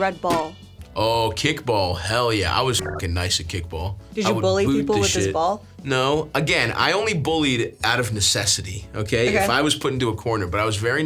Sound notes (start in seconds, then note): 2.8 beeps